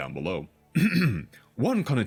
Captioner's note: throat clear